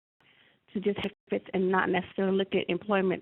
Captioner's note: audio dropping